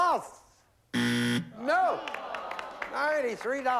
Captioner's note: buzzer